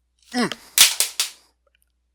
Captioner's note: clatter